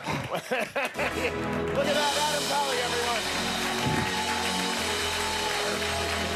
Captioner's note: laughter and applause